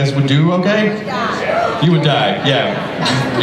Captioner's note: voiceover